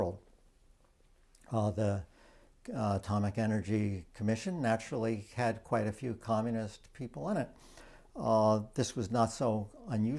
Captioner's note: French